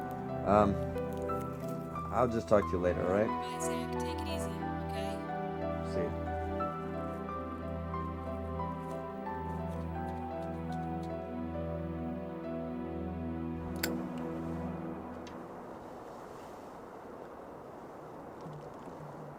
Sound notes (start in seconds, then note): 7.3 tense music; 13.8 lighter clicks; 16.2 traffic whirring